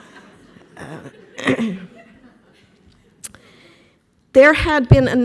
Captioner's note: clearing throat; laughter